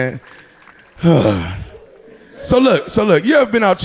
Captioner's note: sighing